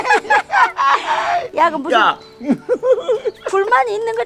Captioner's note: both laughing